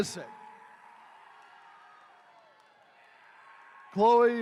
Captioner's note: attendees cheering